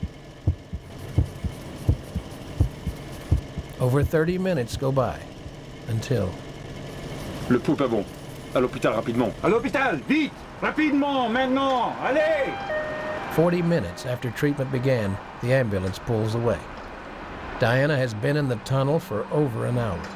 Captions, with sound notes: The ambulance remains in the tunnel. (loud heartbeats) Over 30 minutes go by, until... (doctor speaking French) (doctor responding in French) (ambulance siren sounding) 40 minutes after treatment began, the ambulance pulls away.